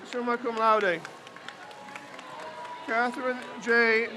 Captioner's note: crowd cheers